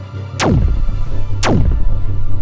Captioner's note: zap